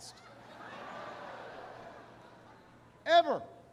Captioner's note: laughter